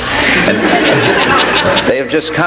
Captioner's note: audience laughs